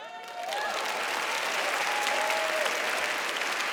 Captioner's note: audience applauds